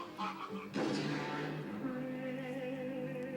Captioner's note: gunshot